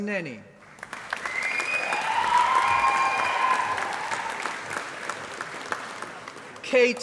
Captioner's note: applause